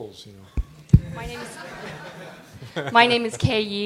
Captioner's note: laughter